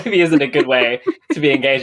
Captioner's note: laughs